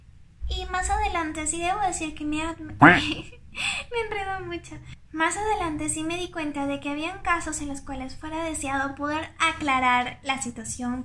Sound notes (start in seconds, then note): 2.8 laughs